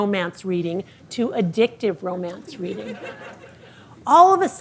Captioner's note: audience laughing